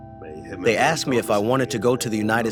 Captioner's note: through translator